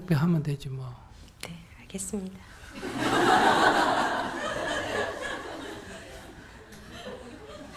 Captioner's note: audience Laughter